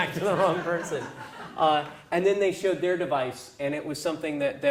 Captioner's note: laugh